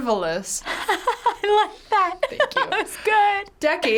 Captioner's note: laughs